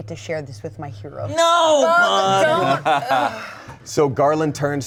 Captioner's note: sighs